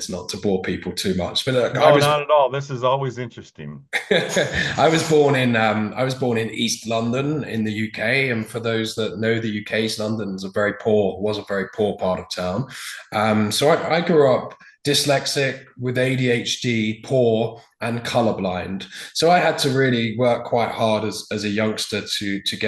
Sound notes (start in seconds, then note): 3.8 chuckles